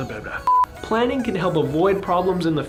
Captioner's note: beeping